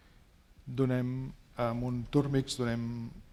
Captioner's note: speaking spanish